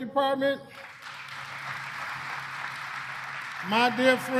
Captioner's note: applause